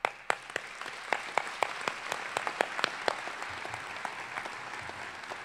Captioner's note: applause